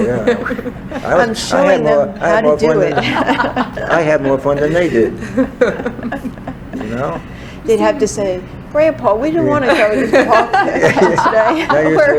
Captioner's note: all laugh